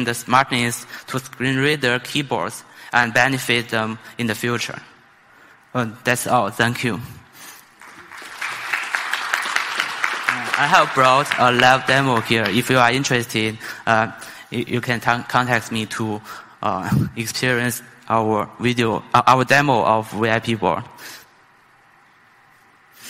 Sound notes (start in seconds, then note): 7.7 applause